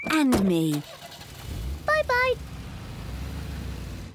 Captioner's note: engine starts